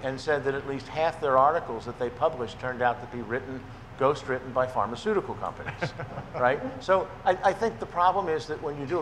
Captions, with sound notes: and said that at least half their articles that they published turned out to be written, ghost written by pharmaceutical companies. (man chuckling) Right, so I think the problem is that when you do